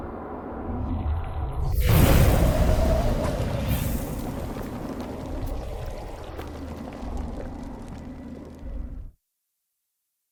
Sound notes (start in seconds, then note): 0.1 energetic tones; 0.1 water sloshing; 3.7 wind whooshing